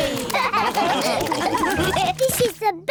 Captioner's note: all laugh